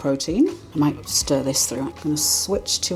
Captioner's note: slurpy whisking